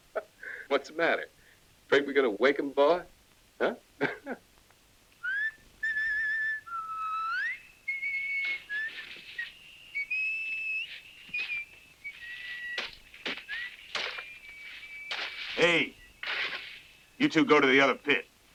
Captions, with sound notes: - What's the matter? 'Fraid we gonna wake 'em, boy? Huh? (Lucky whistling) - Hey, you two go to the other pit.